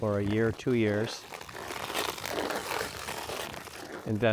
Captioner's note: skate blades carving ice